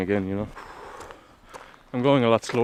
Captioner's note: exhales like a Wolly Mammoth